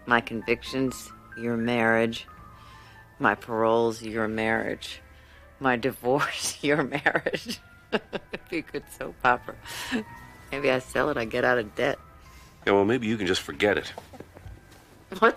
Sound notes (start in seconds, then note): 7.9 laughs